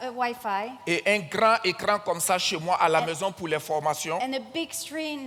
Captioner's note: continues in French